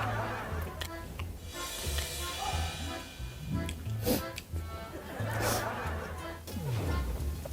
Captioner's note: sniff